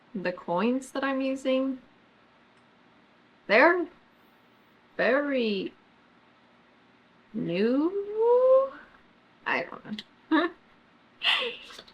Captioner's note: laughs